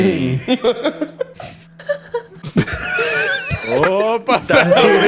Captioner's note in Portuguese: risada